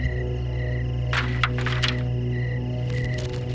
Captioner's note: rattling